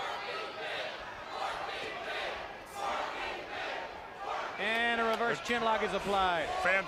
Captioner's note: crowd cheering